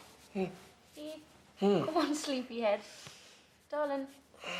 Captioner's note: mendengus; mendengus